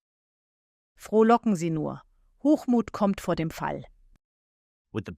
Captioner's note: voice-over German